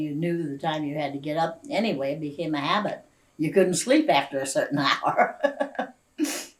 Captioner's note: laughs